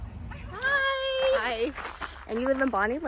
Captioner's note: footsteps in the background